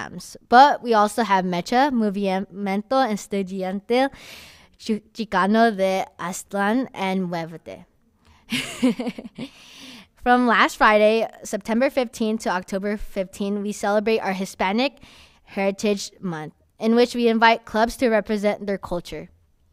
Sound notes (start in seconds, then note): 8.5 laughs